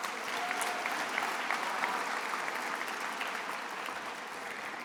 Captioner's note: attendees applauding